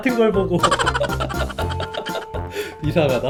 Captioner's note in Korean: 웃음소리